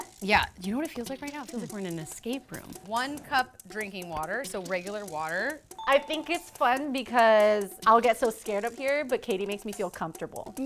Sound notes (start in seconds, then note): 5.8 ding